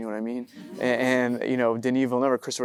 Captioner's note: audience chuckling